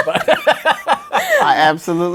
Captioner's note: laughs